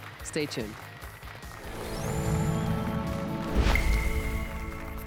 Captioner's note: applause and cheers